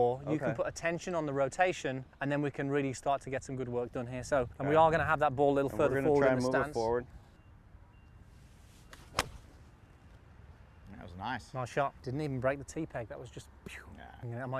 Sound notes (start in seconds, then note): 8.4 golf swing swoosh